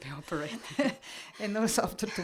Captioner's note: laugh